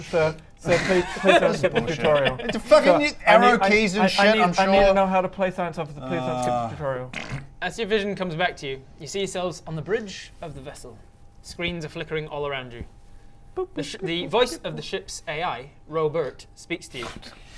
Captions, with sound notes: Sir sir please don't skip the tutorial This is bullshit f***ing you need arrow keys and shit I'm sure I need to know how to play Science Officer please - Ughhhh - don't skip the tutorial As your vision comes back to you you see yourselves on the bridge of the vessel screens are flickering all around you *boop beep boop beep* The voice of the ship's AI Ro-bert speaks to you